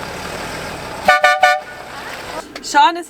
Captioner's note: is honking